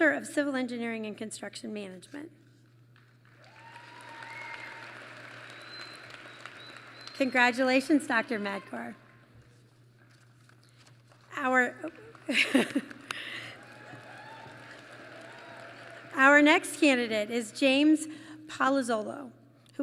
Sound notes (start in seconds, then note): 3.0 applause; 11.9 laughs; 13.5 applause